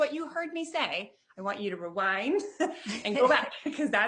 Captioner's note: chuckles